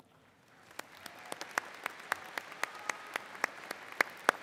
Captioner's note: all clap